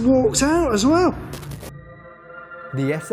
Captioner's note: static